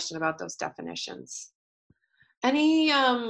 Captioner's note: pause